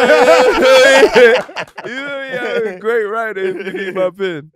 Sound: group cheering and laughing

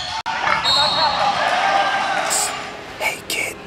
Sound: whistle blowing

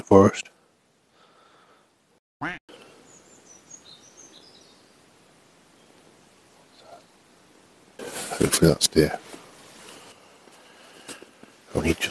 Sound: quack

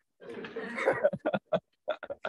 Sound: laughter

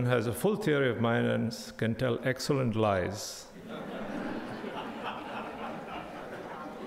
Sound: crowd laughing

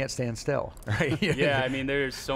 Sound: laughs

